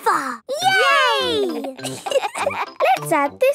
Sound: laughter

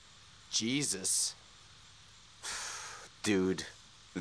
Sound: snort

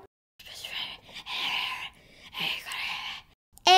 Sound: whispering

